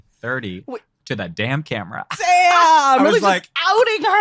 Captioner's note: both laughing